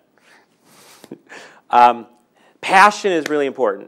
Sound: laughing

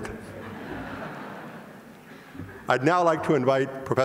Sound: audience laughs

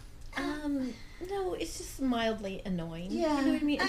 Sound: voiceover; voiceover

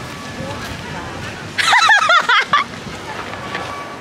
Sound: laughing

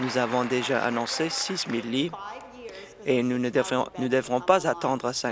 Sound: applause

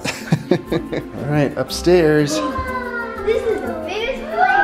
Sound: laughs

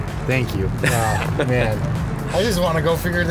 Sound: interviewer laughs

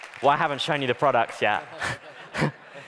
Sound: laughing

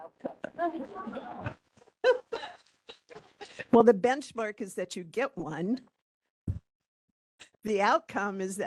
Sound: laughing

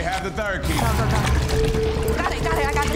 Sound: blood splashing

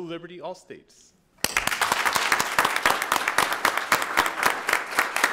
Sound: audience applauding

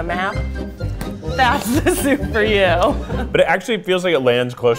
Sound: laughing

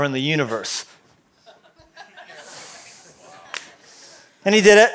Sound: laughter

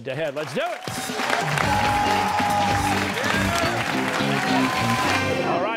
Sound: cheers and applause

